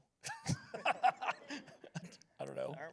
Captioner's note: laughs